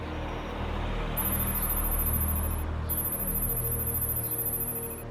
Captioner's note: electronic beeping